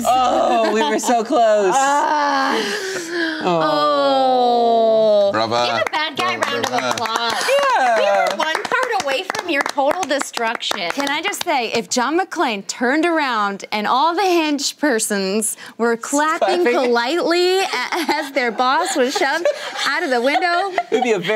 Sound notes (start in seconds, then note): 3.4 groaning; 5.8 clapping